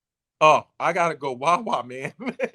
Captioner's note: laughing